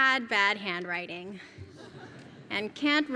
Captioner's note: laugh